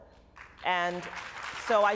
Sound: applause

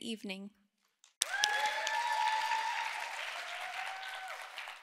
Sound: audience cheering

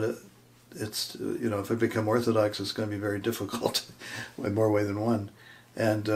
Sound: chuckling

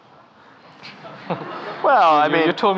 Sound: audience laughing

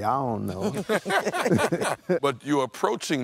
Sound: laughter

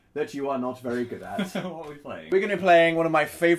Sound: laughs

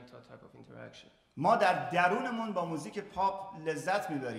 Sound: speaking in farsi

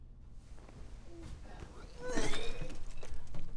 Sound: vomits

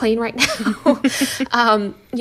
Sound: laughter

